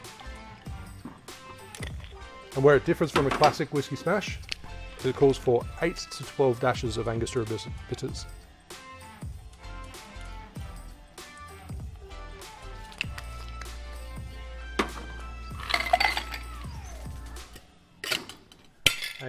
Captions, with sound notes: (liquid sloshing) And where it differs from a classic Whiskey Smash is it calls for eight to 12 dashes of angostura bitters. (ice clanking)